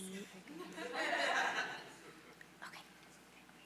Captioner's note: audience laughing